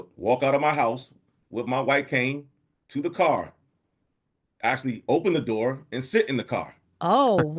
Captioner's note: laughs